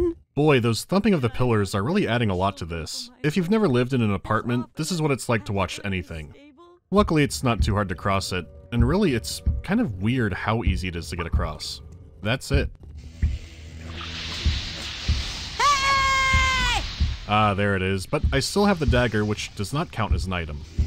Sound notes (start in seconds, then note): 15.5 boyo screams